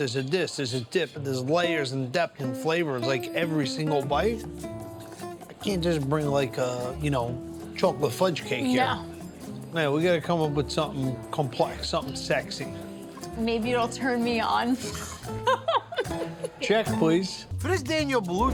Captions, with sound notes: there's a dip and there's layers and depth and flavor, like every single bite. I can't just bring like a, you know, chocolate fudge cake here. - No. - We gotta come up with something complex, something sexy. - Maybe it'll turn me on. (laughing) - Check, please. For this Daniel Boulud cake,